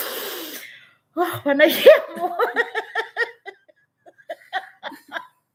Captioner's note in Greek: γέλια